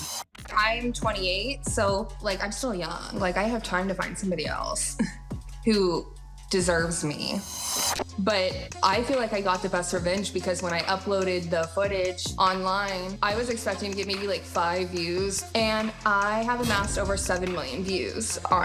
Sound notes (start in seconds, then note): 5.1 chuckles